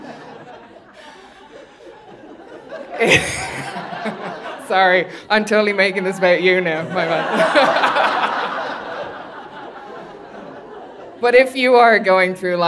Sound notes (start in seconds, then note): 0.2 audience laughing; 5.8 laughs; 8.9 audience laughing